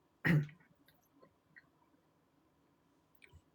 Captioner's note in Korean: 목을 가다듬음